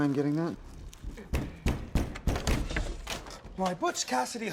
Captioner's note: loud knocking